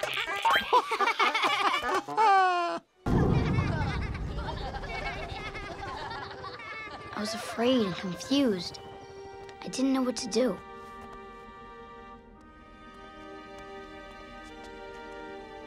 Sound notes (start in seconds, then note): 0.0 laughing